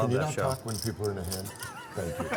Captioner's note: laughter